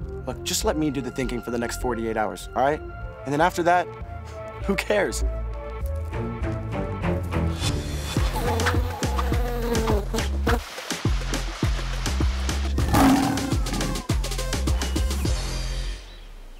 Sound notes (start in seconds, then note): 8.2 bees buzzing; 12.8 lions roaring